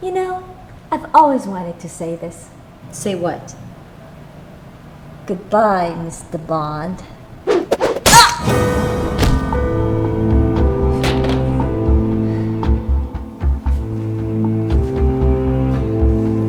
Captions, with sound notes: - You know, I've always wanted to say this. - Say what? - Goodbye Mr. Bond. (screwdriver thudding) (Lucy grunting) (gun thudding) (dramatic music)